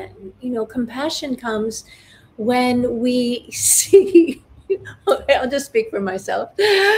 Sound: laughs

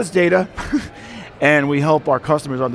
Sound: laughs

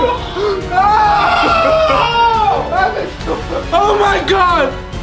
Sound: all yell

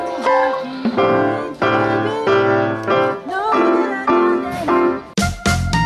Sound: shuffling away

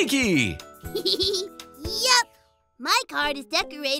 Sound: giggles

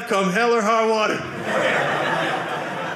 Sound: audience laughing

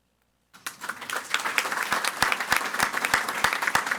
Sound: audience applauding

